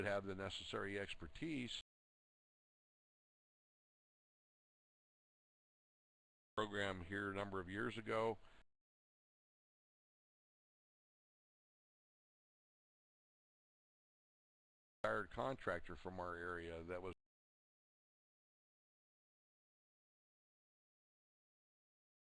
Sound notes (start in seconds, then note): 3.7 audio drops; 12.5 audio drops; 21.6 audio drops